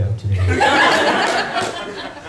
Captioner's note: laughter